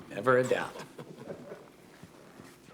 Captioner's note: chuckling